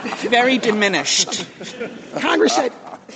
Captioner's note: laughter